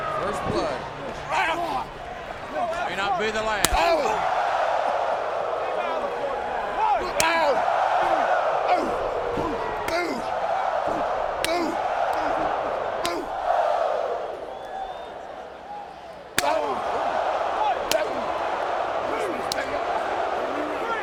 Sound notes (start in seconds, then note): 5.0 crowd clamoring; 7.4 wrestlers grunting; 17.2 crowd clamoring continues